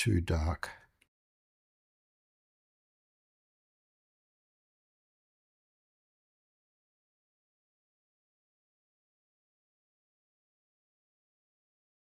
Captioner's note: silence